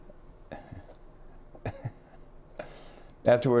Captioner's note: laughs